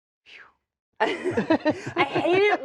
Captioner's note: all laughing